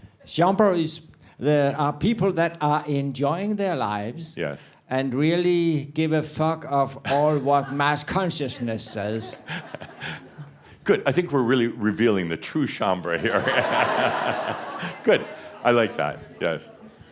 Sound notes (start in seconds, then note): 8.4 chuckling; 13.2 laughter